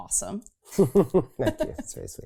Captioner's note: laughing